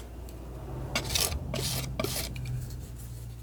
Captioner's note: scratching